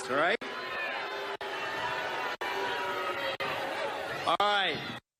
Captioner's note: booing